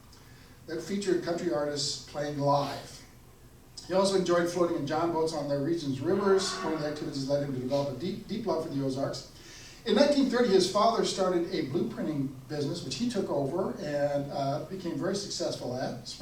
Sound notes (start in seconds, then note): none